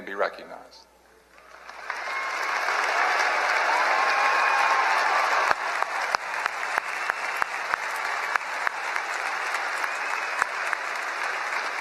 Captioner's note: applause